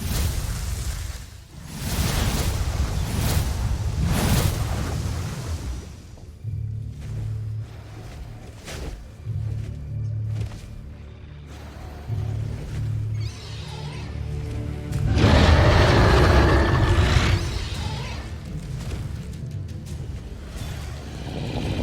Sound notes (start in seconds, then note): 0.0 infernal whoosh-crackle; 1.8 sparkling whoosh, energy swirling; 6.2 ominous music playing; 7.3 fluttering in distance; 12.0 guttural roar in distance; 13.3 screeching roar in distance; 15.0 screeching roar; 18.8 tense music playing; 21.3 guttural roar